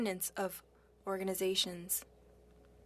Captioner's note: speaking French